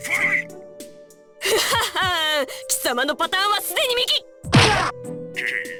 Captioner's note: triumphant laugh